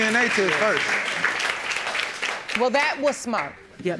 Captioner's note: applauding